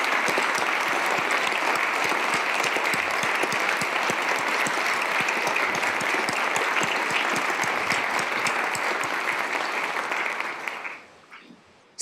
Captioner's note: applause